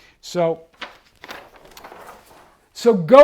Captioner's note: page turns